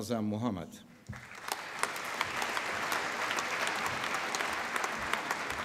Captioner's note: applause